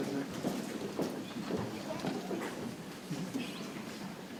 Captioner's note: people chattering softly